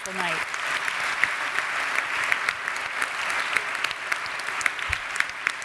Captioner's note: audience applauds